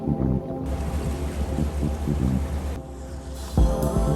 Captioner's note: waves crashing; upbeat music